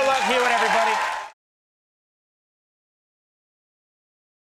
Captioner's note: audience cheers